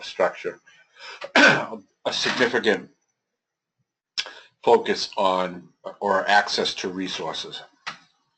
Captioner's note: cough